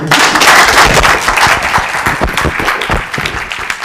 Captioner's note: applause